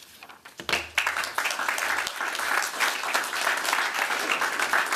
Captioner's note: applause